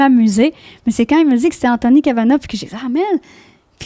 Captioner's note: in french